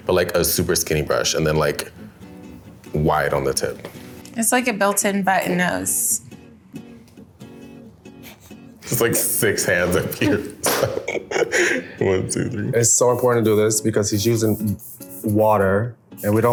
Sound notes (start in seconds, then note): 11.0 laughs